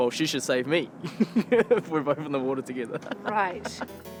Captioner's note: laughs